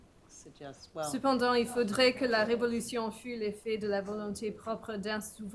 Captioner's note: speaking french